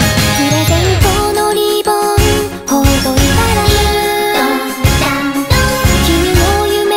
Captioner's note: ding dong dang dong